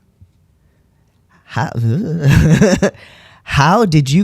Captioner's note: laughter